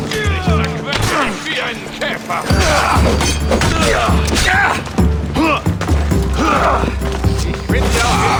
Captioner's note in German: stöhnen; schreien